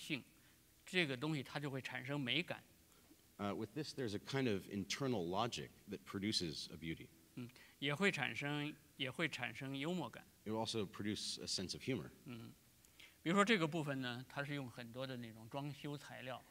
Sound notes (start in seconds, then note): 7.8 speaking in Chinese; 14.2 speaking in Chinese